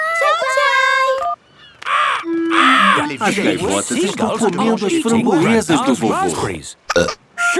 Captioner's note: seagulls cries; burp